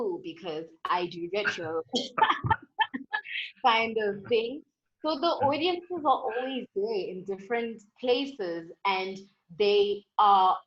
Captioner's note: laughter